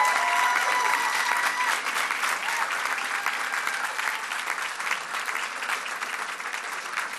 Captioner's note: cheers and applause